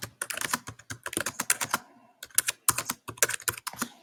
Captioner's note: keyboard clicks